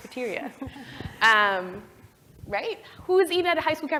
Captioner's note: laugh